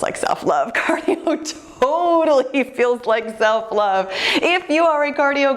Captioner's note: laughs